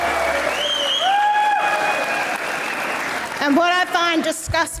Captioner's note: audience member cheers; audience applauds; audience member cheers